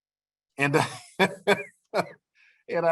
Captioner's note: laughter